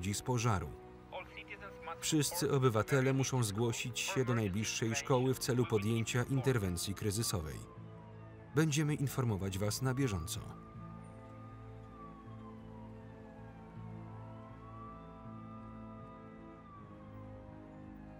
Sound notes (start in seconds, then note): 7.6 sirens wail; 7.6 somber instrumental music